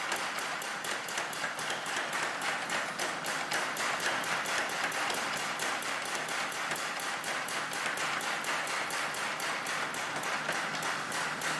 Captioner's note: clap